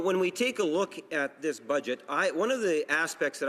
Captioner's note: speaking English